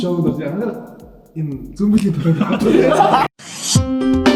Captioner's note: everyone laughs